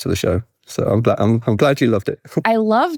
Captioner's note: chuckles